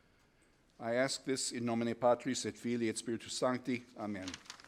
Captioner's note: speaking in foreign language